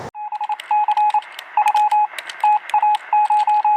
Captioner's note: beeping